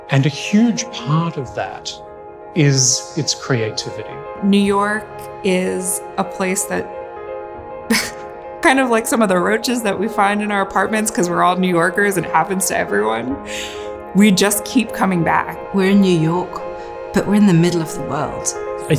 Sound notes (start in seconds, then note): 7.9 laughs